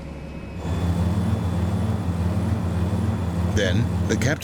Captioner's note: engines humming